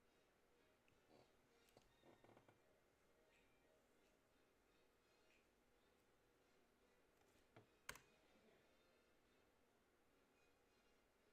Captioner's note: yup. More mouse and keyboard clicking